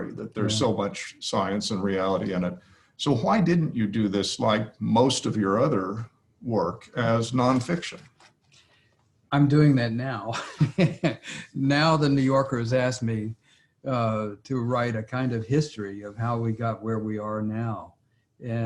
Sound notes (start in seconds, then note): 10.3 laughs